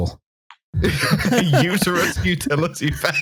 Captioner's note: laughing; laughter